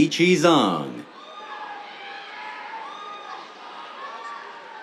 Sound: cheers

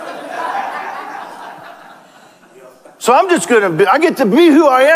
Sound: congregation laughs

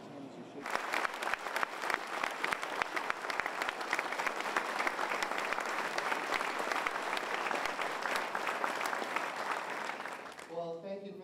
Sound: applause

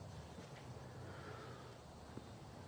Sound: deep breath

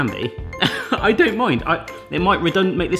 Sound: laughs

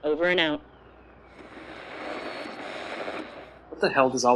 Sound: static

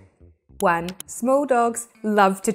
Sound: graphics clicking

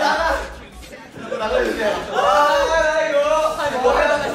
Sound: everyone's crying

